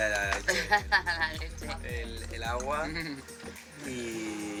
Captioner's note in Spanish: ríe